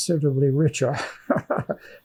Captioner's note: laughing